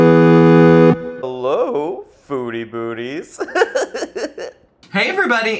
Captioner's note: giggles